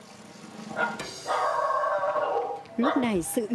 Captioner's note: dog barking